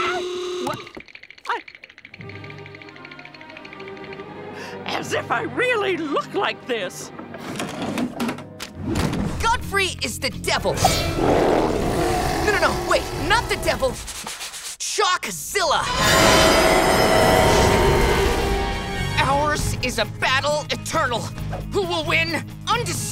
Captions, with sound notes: What? I- [teeth chattering] As if I really look like this. Godfrey is the devil. [roaring] No, no, wait. Not the devil. Shockzilla. Ours is a battle eternal. Who will win? Undecided.